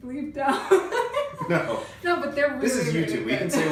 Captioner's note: laughing